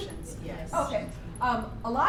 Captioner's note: voiceover